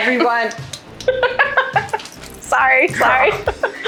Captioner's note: laughs